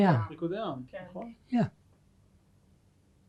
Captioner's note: hebrew